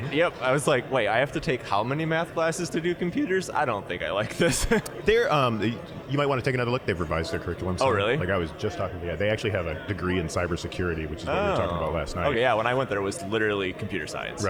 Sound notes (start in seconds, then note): 4.2 laughing